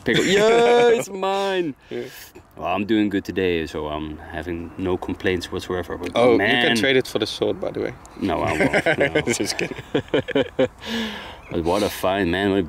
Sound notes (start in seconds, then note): 0.0 laughs; 8.3 laughs